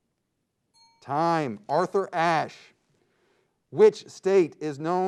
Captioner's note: ping